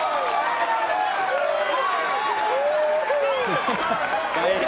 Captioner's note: crowd cheers